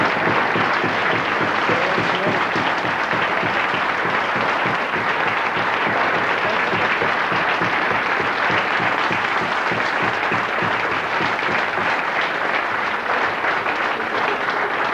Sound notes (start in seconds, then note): 3.4 audience applauding